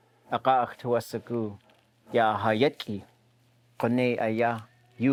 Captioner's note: speaking in Łingít